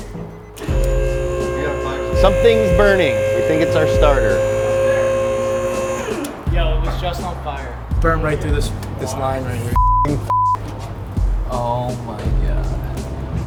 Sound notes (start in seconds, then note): 0.0 whirring noise; 10.2 beep